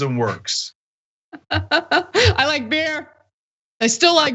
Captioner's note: laugh